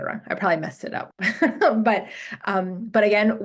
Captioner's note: laughs